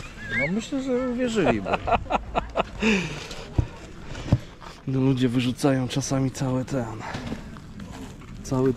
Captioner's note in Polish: śmiech